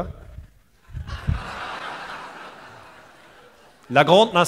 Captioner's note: laugther